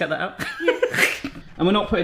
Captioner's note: laughs